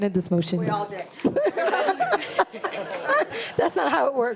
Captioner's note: board members laughing